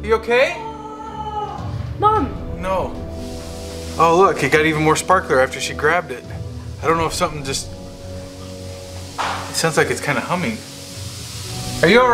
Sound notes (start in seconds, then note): 1.6 mom whimpering; 9.2 light hissing